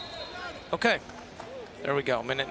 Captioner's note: whistle blows